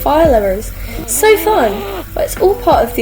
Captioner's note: Roblox mad noise plays